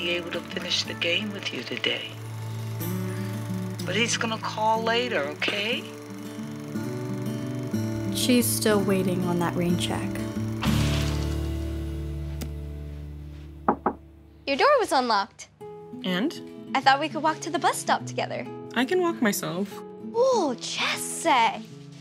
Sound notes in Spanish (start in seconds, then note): 13.6 llama a la puerta